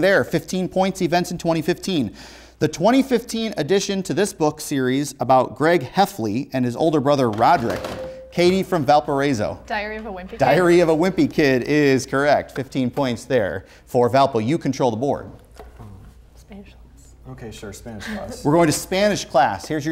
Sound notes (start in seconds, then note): 7.9 beeping; 15.7 whispering